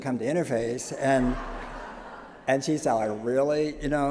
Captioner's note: laughter